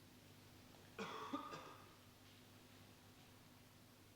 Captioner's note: man coughing